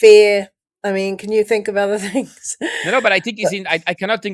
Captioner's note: laughs